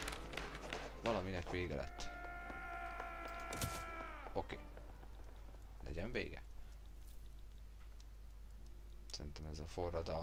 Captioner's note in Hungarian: sikítás